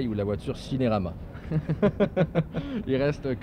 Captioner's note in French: rires